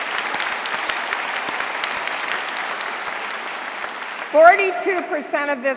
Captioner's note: applause